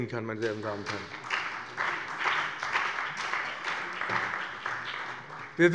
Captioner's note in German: Beifall bei dem BÜNDNIS 90/DIE GRÜNEN und der CDU